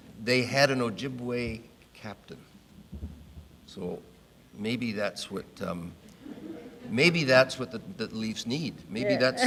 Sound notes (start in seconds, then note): 6.2 audience laughing